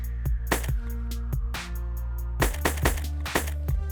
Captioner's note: gun shots